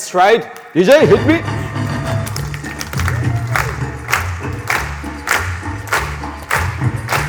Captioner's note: rhythmic clapping